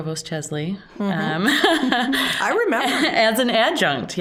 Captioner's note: laughing